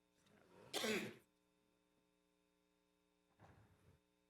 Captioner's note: attendee coughs